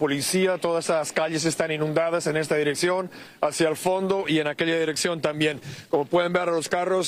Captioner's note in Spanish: hablan en ingés